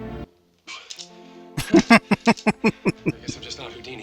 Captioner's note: laughing